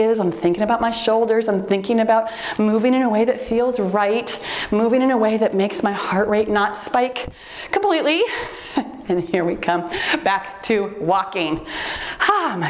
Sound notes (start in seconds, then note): 8.2 timer beeps; 8.2 laughs